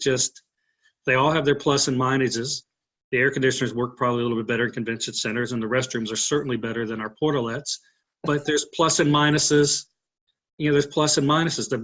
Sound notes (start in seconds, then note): 8.2 laughs